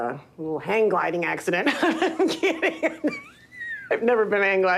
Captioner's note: laughing